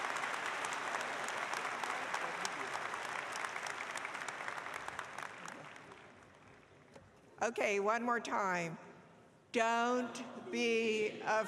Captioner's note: applause